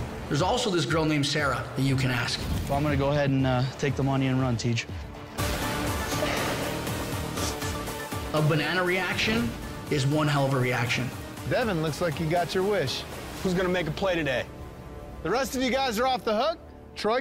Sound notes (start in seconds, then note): 5.9 sobbing